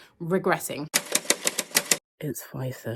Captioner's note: typewriter keys clicking